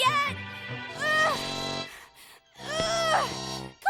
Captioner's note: grunting